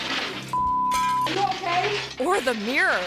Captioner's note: glass shattering; beep